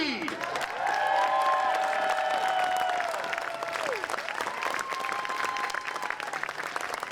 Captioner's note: applause